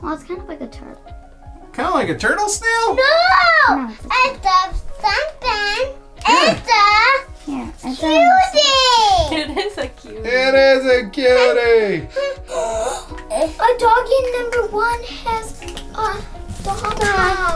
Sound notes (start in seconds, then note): 9.2 laughing; 12.0 gasping